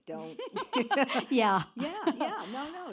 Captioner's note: laughs